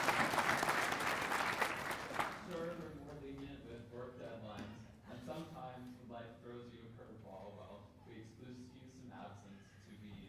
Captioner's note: applause